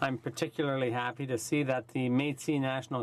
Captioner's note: speaking in french